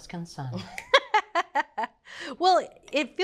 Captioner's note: Julia laughs